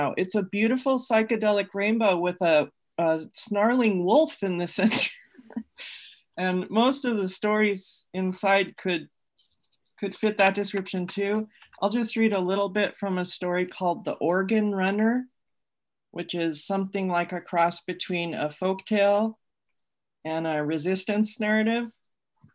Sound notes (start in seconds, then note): 4.8 laughs